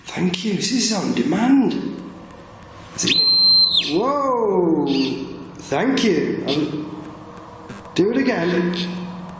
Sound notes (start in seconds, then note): 3.0 metre beeping